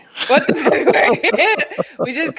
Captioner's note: laughing